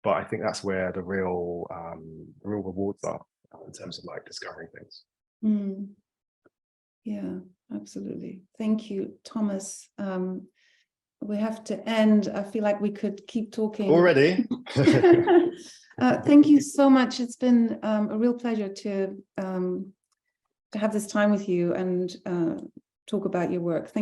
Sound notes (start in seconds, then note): 14.6 both laughing